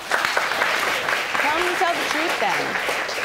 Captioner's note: audience applauding